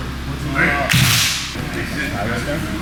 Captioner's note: class claps